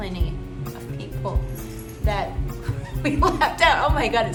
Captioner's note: laughingly